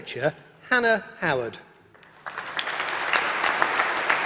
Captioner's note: applause